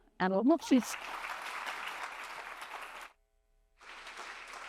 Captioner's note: applause